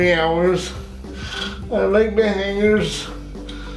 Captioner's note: queja